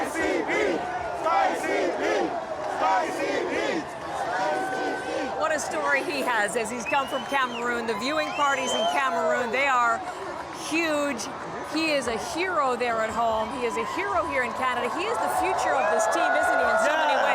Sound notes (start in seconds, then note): 2.0 chanting